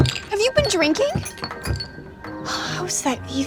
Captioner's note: bottles clanging